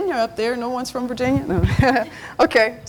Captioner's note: laughs